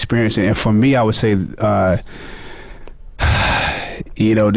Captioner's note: sighs